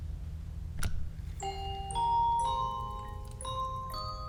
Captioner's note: object clicking; music box tinkling